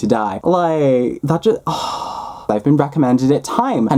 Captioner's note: dramatic exhale